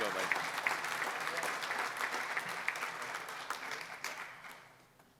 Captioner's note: applause